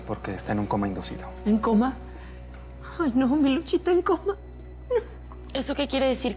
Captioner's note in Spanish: solloza